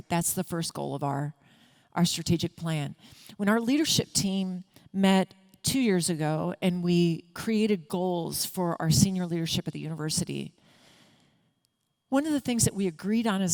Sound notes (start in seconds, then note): none